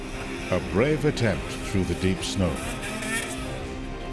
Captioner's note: voiceover